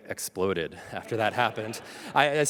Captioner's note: audience laughs